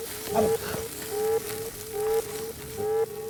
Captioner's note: skin hissing